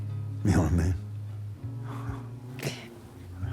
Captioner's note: chuckles